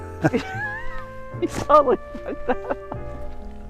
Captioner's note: laughs; soft saxophone music